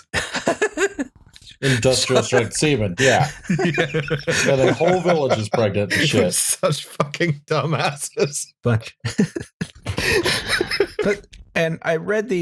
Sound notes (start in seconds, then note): 0.0 laughter